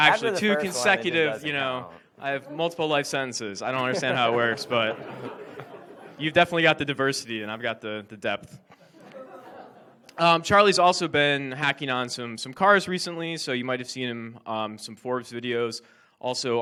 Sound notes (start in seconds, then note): 8.7 audience laughs